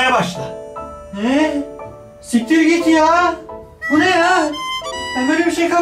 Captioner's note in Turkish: endişeli bir şekilde